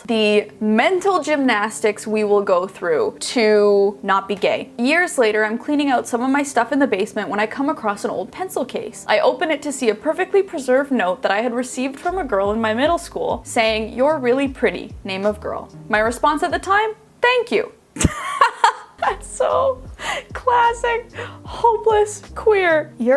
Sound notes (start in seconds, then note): 18.0 laughing